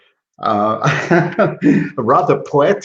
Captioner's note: laughs